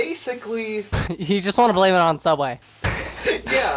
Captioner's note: laughing